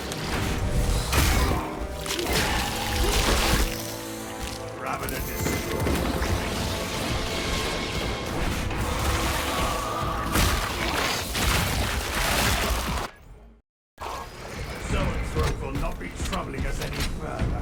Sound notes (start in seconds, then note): 10.0 gunfire